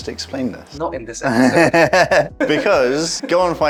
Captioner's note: laughs